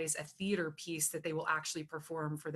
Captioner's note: none